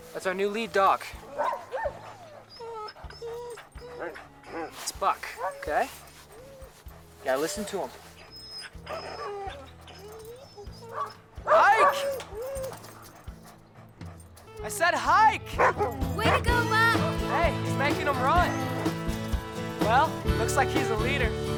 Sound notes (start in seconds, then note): 15.5 Buck barking; 15.6 playful music